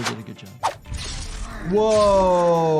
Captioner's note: blade clangs